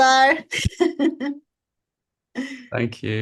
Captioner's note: chuckles